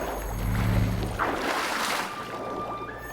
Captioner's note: water splashing